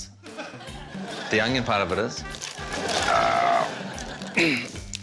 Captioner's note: grunts